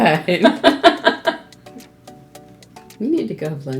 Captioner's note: laughs